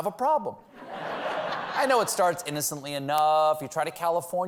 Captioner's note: laughter